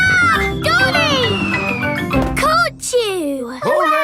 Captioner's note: screams